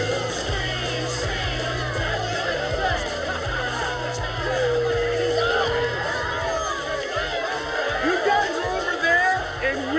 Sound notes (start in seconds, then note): 5.2 indistinct chatter